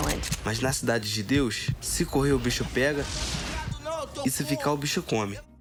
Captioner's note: speaking foreign language